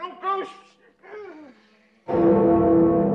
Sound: gasps

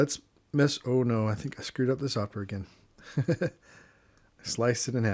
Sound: chuckles

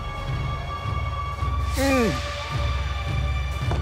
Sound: grunting

